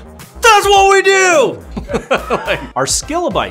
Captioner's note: laughs